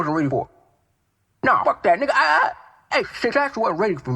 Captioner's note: stuttering